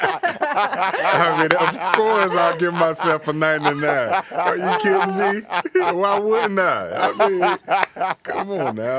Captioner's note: laughter